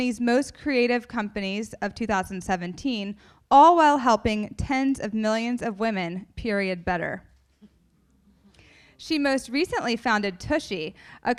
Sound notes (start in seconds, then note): none